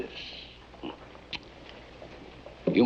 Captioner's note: chuckles